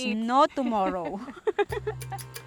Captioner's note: laughs